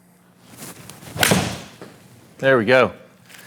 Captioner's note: club whacks golf ball